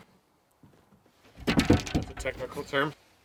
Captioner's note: board rattling